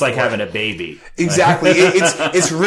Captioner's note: laughing